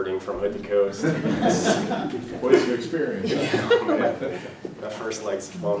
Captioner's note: laugh